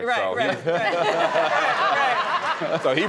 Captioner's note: audience laughing